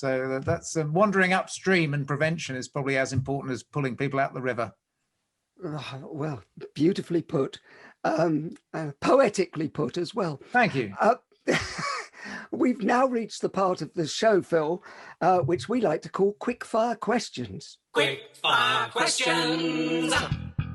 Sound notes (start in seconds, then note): 12.1 laughs